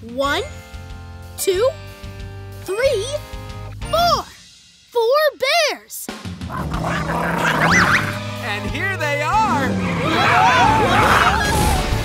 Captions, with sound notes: One, two, three, four. Four bears! [growling] And here they are! [screaming]